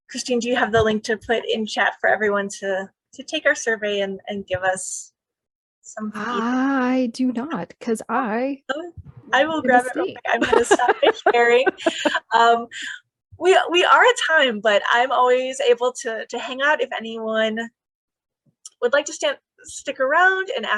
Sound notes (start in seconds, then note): 11.9 laughing